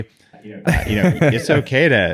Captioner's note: laughs